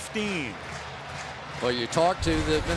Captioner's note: crowd chanting